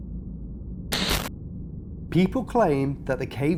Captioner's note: static